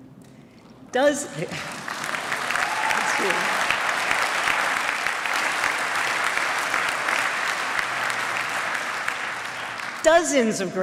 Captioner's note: applause